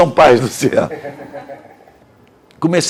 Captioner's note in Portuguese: risos